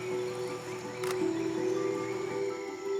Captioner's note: camera clicks